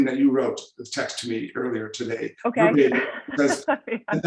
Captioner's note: chuckling